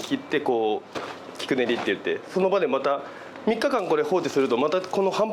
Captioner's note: kneading